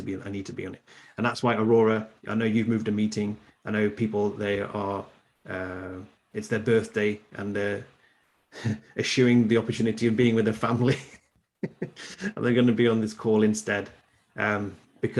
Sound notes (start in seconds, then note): 11.6 laughs